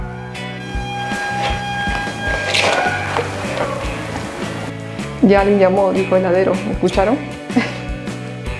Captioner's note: laughs